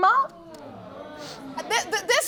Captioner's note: audience exclaiming